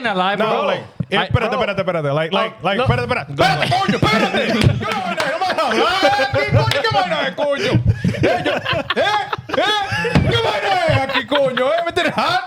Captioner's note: speaking In Foreign Language